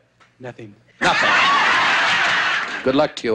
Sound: laughing

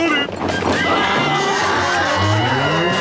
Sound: screaming

